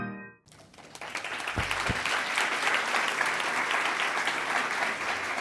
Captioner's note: applause